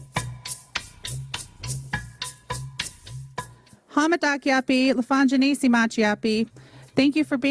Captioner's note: speaking native language